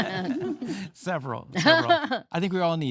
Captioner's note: both laughing